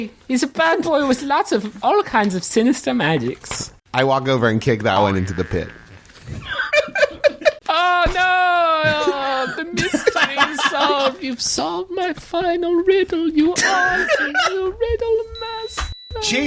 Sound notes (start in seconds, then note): 6.3 laughter